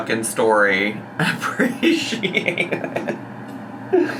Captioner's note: laughs